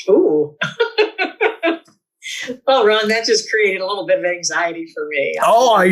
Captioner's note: laughs